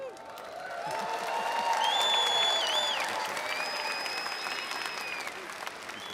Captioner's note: audience applauding and cheering